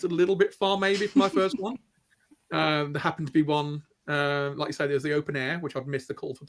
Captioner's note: laughter